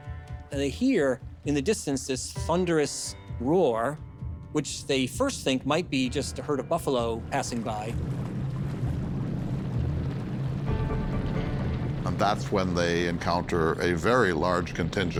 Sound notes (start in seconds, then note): 8.3 footsteps thumping